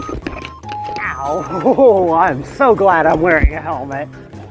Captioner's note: laughter